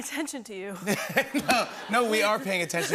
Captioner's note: laughter